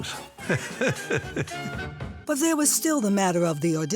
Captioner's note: chuckles